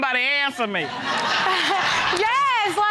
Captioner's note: audience laughing